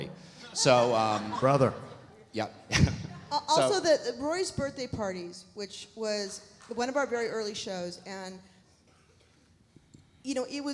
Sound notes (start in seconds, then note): 0.6 chuckles